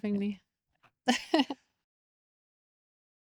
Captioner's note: laughs